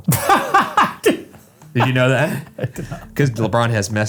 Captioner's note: laughs